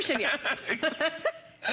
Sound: laughter

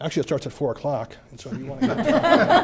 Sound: laughter

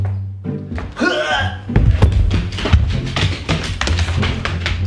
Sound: hurls voice

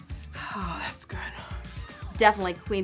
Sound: sighs

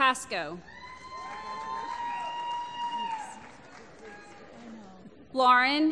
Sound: applause

